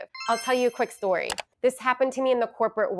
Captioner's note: chimes ringing